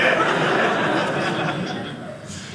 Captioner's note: audience laughing